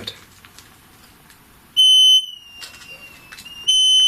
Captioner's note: beeping